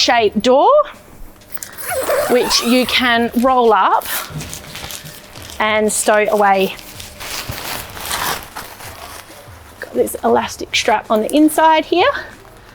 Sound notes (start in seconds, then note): 1.6 zip hissing; 7.0 tent rustling